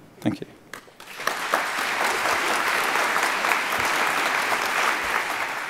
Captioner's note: applause